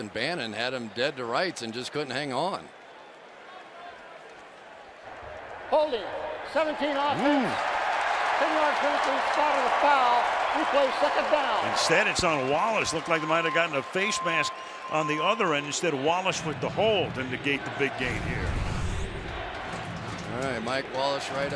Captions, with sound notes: Instead it's on Wallace. Looked like he might have gotten a face mask on the other end instead of Wallace with the hold and negate the big gain here. All right. Mike Wallace right up here. [crowd chanting] I'd say that's a hold, negates a heck of a play here.